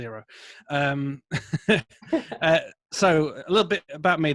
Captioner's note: laughing